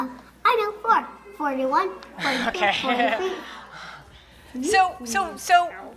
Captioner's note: laughing